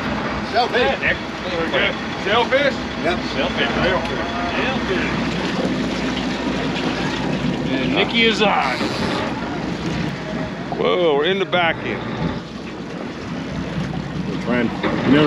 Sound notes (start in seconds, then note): 8.3 boat engine running; 10.9 reel spinning